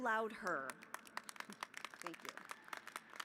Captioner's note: applause